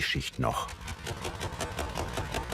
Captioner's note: spring rattling